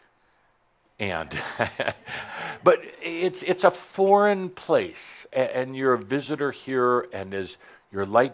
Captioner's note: chuckles